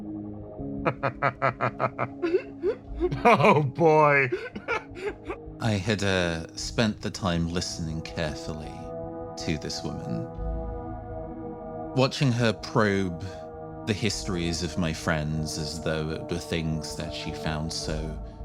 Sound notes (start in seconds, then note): 0.8 laugh